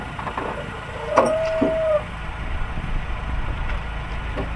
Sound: metal squeaking

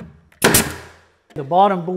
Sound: nailer snaps

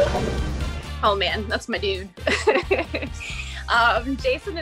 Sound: laughs

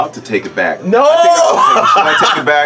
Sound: laughs

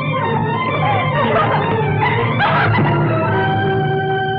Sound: crying

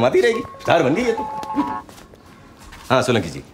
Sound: cellphone rings

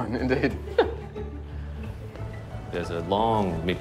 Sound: laughing

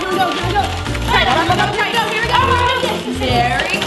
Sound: paper rustling

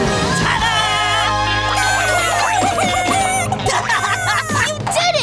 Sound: clucking

